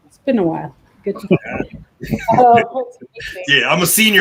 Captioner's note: laughter